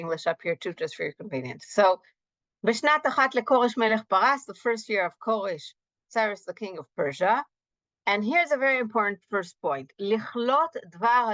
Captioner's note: Hebrew